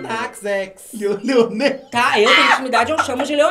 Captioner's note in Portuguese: gargalha